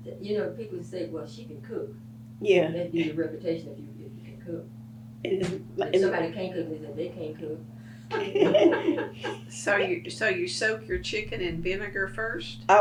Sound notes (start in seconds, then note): 8.1 laughter